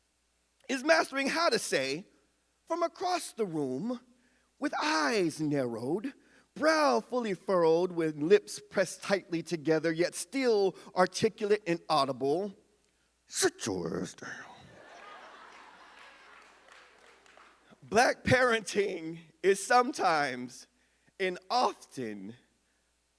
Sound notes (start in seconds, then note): 14.5 audience laughs